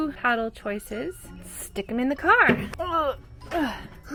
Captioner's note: groans